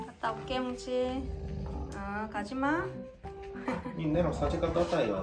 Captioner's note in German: Leises Knurren